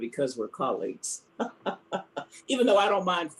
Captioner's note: laughs